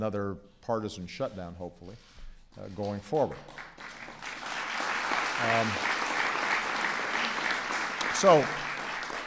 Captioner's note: applause